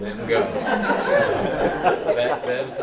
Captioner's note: laughter